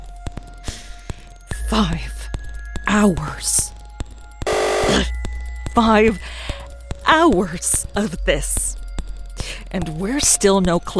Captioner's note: buzzer